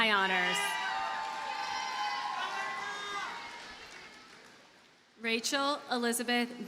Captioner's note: audience cheers and applauds